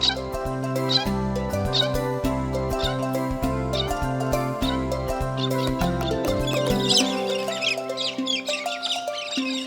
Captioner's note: bird sounds